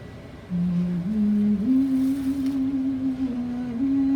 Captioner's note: humming